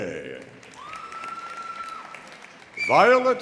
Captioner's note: audience applauding; audience cheering